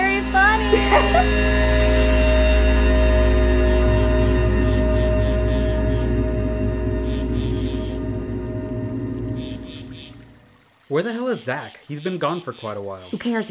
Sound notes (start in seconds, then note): 0.0 group laughs; 0.6 girls giggle; 2.3 sinister music; 5.3 insects croak